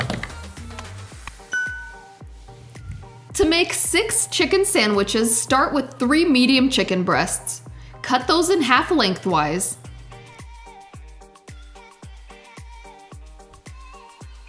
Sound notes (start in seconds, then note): 0.0 hands tapping; 1.5 bell chimes